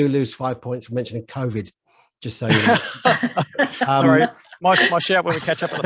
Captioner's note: laughs